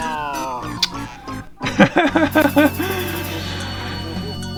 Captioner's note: laughter